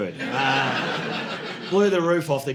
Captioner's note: audience laughing